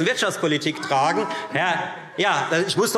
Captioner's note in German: Lebhafte Zurufe CDU und BÜNDNIS 90/DIE GRÜNEN